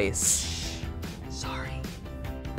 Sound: whispered

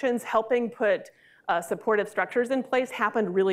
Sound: none

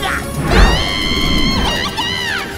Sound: screaming

